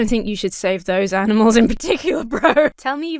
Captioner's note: Emma laughs